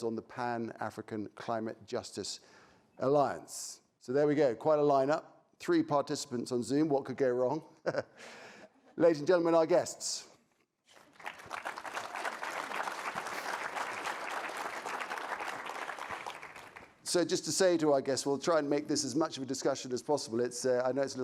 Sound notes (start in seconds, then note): 7.8 chuckling; 7.9 audience laughing; 10.9 audience applauding